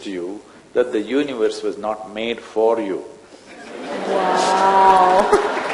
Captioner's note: laughter/Applause